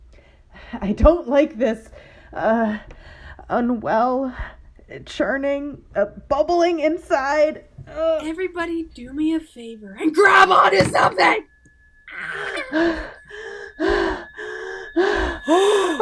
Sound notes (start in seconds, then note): 13.3 panting